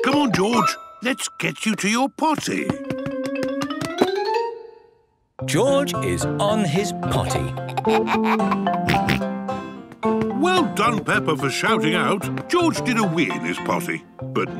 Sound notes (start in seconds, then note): 7.5 giggles, snorts